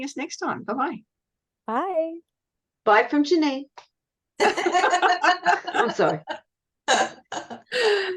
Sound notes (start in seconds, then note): 4.4 everyone is laughing